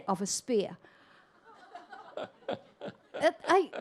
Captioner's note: audience laughter